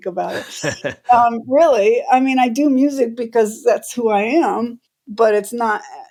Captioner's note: laughter